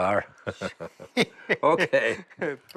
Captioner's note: laughter